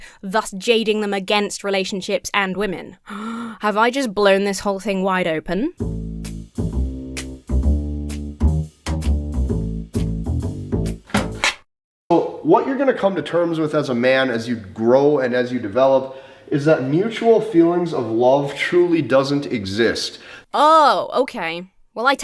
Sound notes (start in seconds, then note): 3.0 gasps; 5.8 detective thriller music